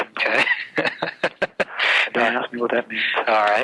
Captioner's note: laughs